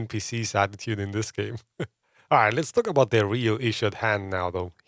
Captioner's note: laughs